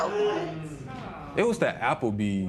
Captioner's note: spectators murmur